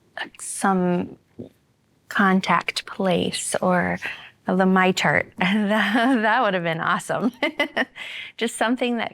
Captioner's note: laughter